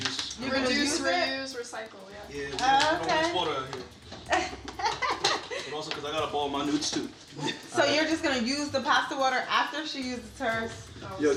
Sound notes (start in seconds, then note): 4.3 laughing